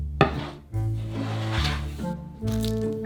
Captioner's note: board sliding